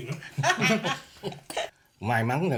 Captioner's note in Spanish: Risas